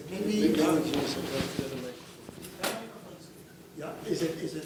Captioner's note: speaking in foreign language